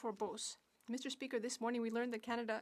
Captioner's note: speaking French